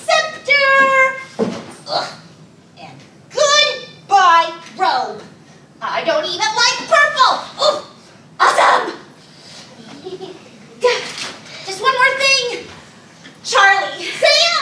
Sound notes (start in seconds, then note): 9.8 audience laughing